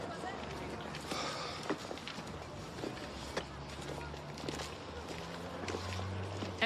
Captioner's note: sighs